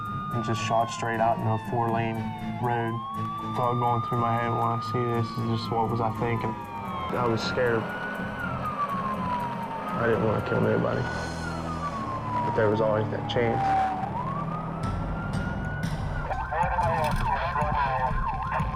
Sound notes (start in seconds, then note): 13.6 police siren